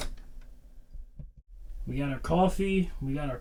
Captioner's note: door latch clicks